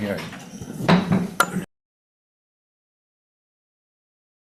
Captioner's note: gavel bangs